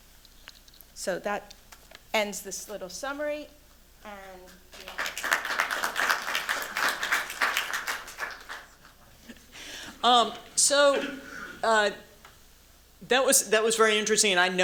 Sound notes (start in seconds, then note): 4.7 applause